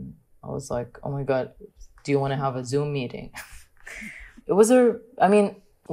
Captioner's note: laughs